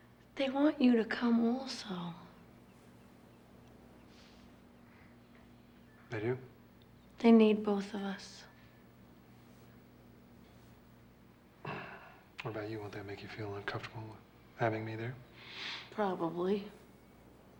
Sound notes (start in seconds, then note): 11.6 clears throat